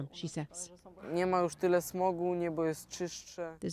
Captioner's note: speaking russian